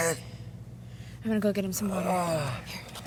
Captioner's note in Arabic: آهات